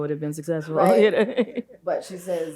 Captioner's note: chuckles